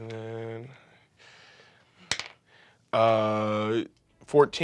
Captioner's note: rolls dice